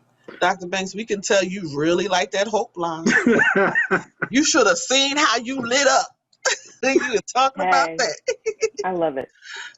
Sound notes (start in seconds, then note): 3.0 laughs; 7.3 laughs